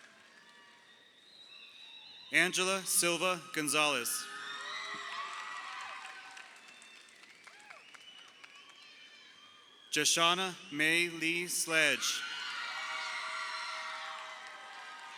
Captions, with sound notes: Angela Silva Gonzalez. (crowd cheering) Joshauna Mae Lee Sledge. (crowd cheering)